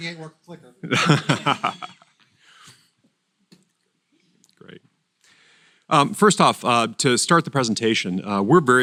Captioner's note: laugh